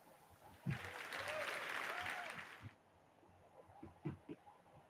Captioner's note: audience cheers and applauds